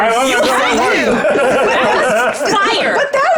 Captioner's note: participants chuckling